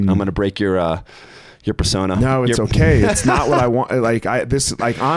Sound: laughs

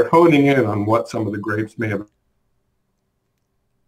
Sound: audio cuts out

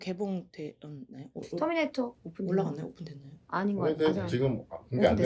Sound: surprised

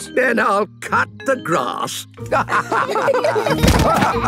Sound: laughter

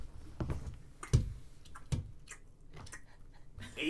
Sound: lip smacking/chewing

